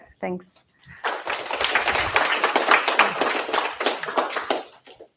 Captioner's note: applause